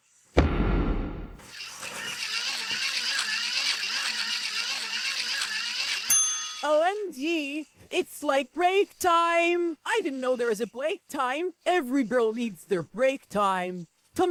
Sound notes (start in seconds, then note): 1.5 cranking